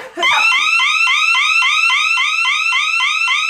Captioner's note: siren blaring